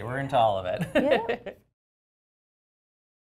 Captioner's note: laugh